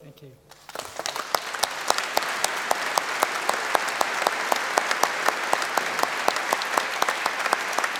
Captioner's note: applause